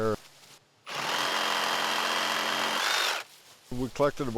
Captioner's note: saw grinding